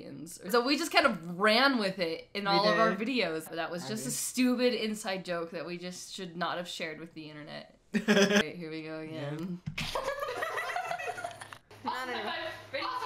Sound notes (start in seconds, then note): 7.9 laughs